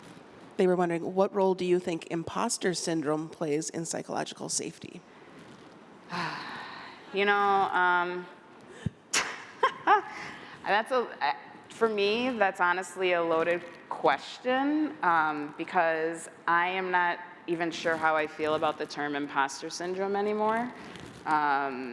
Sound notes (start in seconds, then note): 9.2 laughter